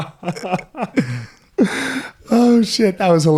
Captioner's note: laughing